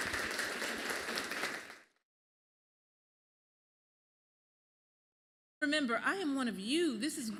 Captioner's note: applause